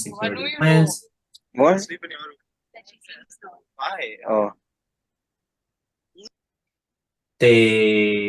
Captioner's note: people in the background talking